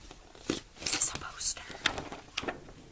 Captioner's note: whispers